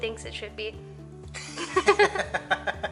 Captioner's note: laughter